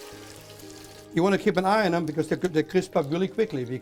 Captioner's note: sizzling